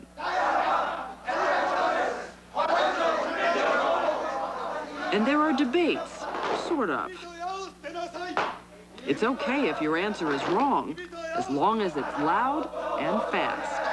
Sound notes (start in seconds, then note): 0.1 men shouting; 7.5 men forcibly reciting instructions